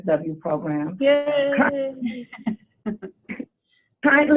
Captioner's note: laughter